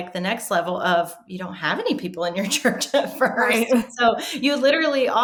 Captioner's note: laughs